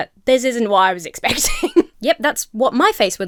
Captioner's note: Emma laughs